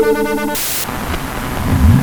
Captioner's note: Static; radio Frequencies